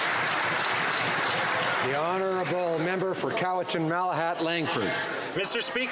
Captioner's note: some Applause